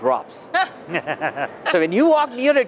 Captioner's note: laughter